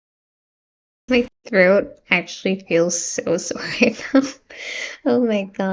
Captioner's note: laughs in pain again